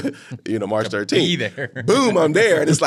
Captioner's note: laughing